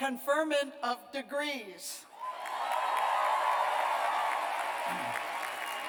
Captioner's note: cheers and applause